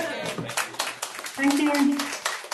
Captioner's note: group applauding